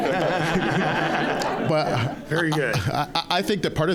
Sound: audience laughing

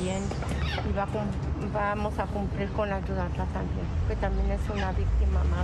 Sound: speaking spanish

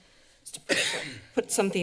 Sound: coughs

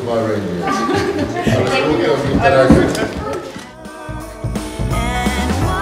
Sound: laughing

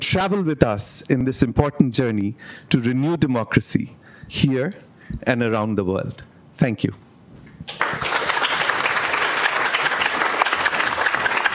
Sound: applause

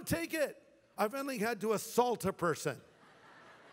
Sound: laughter

